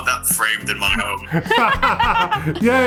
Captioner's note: laughing